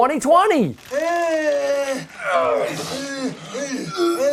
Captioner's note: men retching